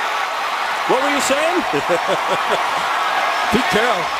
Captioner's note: chuckling